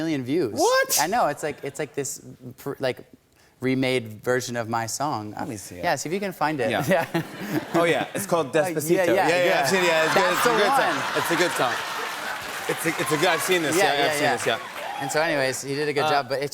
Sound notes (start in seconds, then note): 6.9 chuckling; 9.6 laughter and applause